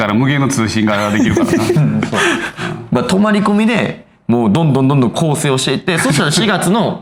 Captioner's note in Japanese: 笑い